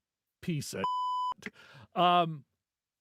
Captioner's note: beep